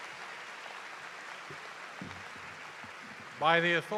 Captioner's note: cheers and applause